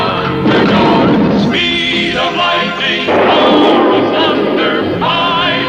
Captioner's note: explosion; lighting Strikes